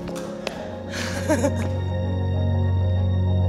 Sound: Awkwafina laughs; gentle music

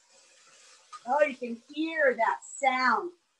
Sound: soft sizzling

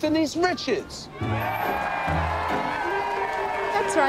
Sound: crowd cheering

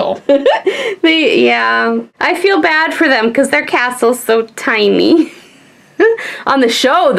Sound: laughs

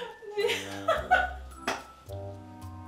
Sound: laughing

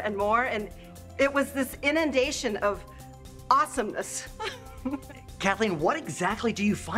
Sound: chuckles

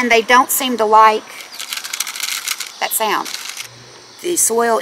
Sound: rattle

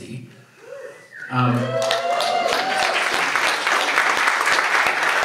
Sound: audience cheers

